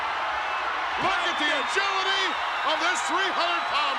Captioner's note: crowd cheering